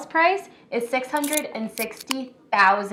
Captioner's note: can opening